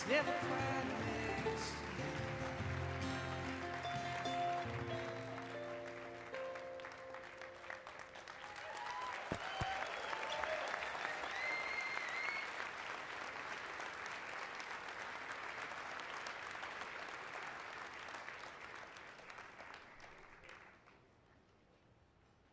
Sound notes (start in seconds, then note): 11.0 cheering and Applause